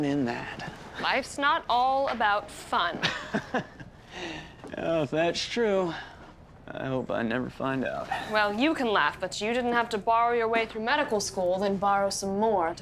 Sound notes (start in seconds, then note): 4.9 johnny laughs